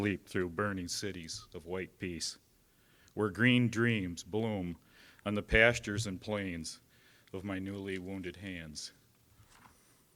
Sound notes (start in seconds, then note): none